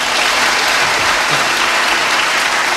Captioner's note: catches breath